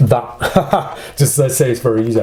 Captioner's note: laughs